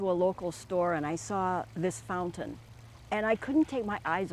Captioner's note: water flowing